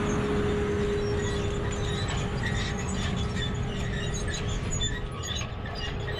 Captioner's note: tractor sound